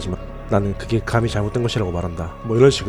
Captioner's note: reading Narration